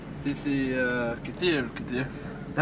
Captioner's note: speaking Arabic